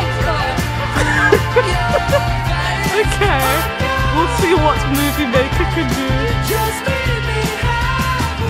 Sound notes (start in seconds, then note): 0.8 laughing; 0.9 laughs